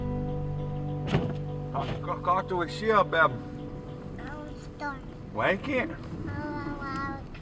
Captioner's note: Dad and daughter speak Menominee